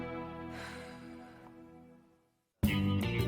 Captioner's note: Caitlin sighs; upbeat music